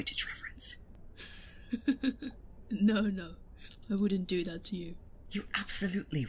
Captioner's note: laughs